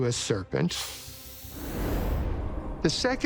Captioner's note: snake hisses